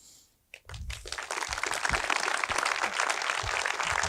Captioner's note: applause